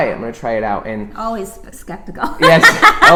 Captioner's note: laughs